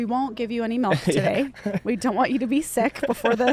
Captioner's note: laughs